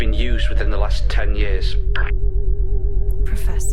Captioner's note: intercom